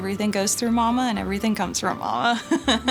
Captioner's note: laughter